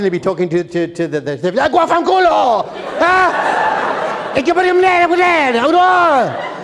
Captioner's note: foreign Language